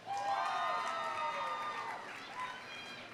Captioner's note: audience applauding; audience cheering